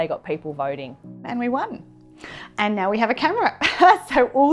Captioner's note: laughter